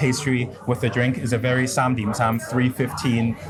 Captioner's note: speaks in foreign language